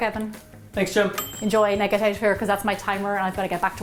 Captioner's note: ding!